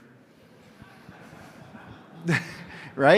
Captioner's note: laughter